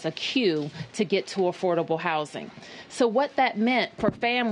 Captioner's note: none